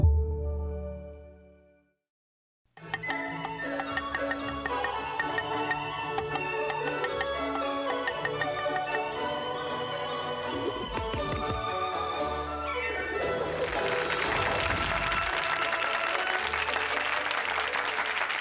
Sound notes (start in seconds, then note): 3.0 joyful music; 3.0 knife tapping; 13.1 audience clapping